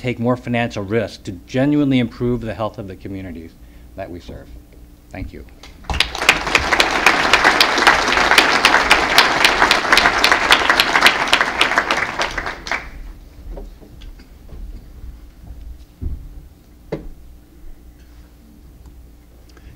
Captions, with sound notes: QUALITY LOWER COST AND TAKE MORE FINANCIAL RISK TO GENUINELY IMPROVE THE HEALTH OF THE COMMUNITY THAT WE SERVE. THANK YOU. [APPLAUSE]